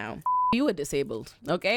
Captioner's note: beep